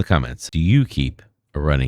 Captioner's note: uh